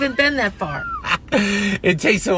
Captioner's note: laughs